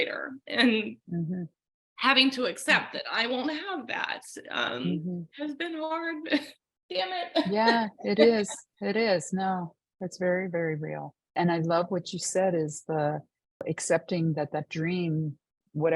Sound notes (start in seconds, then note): 7.3 laughing